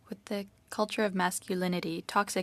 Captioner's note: speaking French